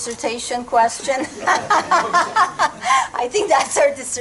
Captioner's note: laughter